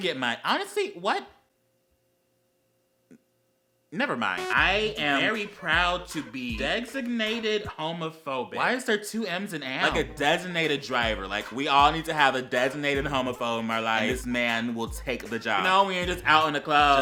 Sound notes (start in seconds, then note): 1.1 long pause x2